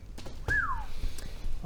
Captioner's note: low whistle